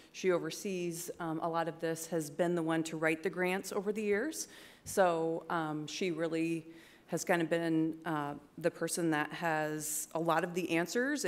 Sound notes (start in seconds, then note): none